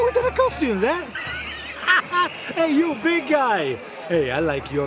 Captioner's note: laughs